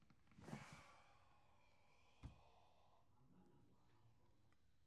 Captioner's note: sighs